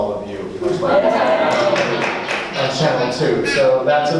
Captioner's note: audience laughs and applauds